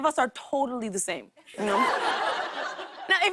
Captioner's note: laughter